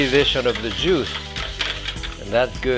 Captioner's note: metal scraping